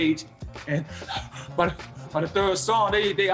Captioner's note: imitates breathing heavily